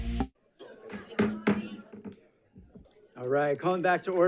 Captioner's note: gavel thumping